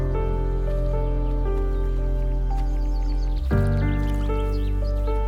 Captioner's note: birds chirping